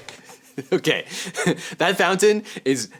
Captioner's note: laughs